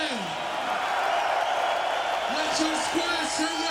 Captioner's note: cheering